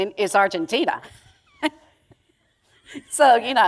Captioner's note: chuckle